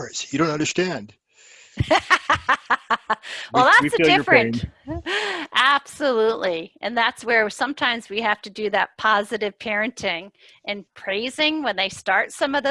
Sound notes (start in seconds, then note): 5.0 laughter